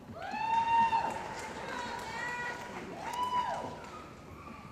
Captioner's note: cheering & Applause